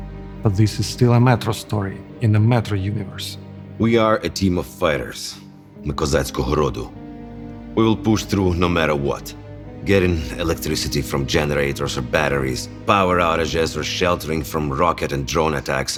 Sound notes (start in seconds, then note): 5.6 in Ukrainian